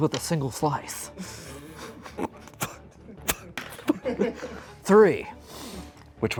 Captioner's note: everyone suppressing laughter